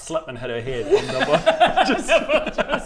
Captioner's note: heartless laughter